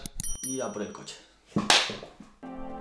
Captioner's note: clap